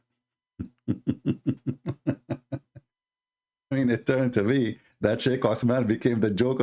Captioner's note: Ketawa